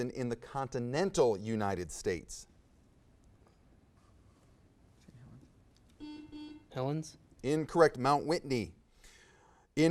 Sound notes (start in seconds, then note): 6.0 buzzer buzzes